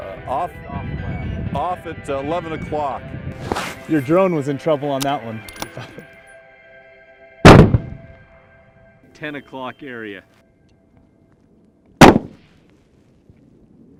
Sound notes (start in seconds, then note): 7.4 gun Shot; 12.0 gun Shot